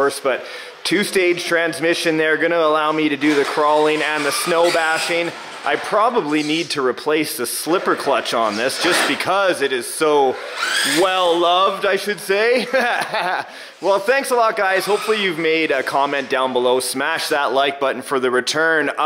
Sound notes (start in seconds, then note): 12.5 laughing